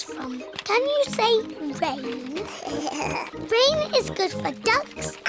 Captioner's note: giggles